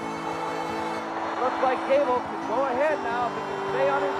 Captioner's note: announcer's voice